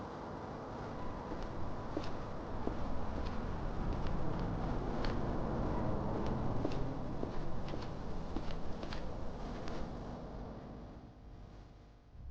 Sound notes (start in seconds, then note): 6.5 heels clacking